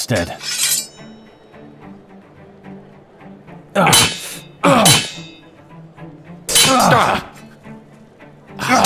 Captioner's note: sword Unsheaths